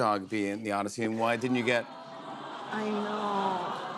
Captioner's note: audience awws